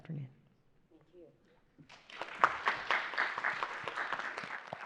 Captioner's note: audience applauding